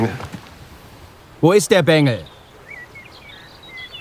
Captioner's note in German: laut